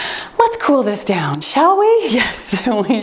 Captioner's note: timer beeps